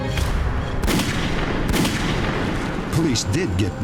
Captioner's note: gunshots